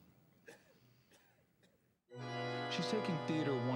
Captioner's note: coughing